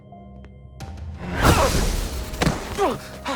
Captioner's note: Max grunts